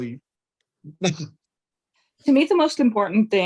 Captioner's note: chuckles